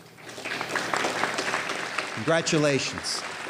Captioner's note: applause